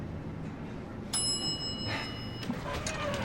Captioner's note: elevator dings